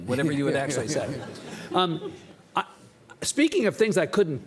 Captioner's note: audience laughing; Lawrence chuckling